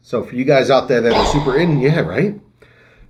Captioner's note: airplane crashing